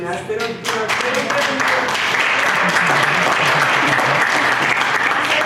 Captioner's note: applause